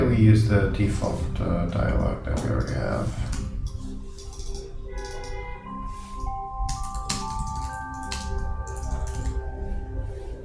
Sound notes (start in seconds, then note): 4.1 mouse clicking